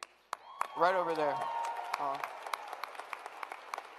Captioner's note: applause